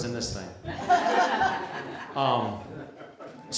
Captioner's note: laughter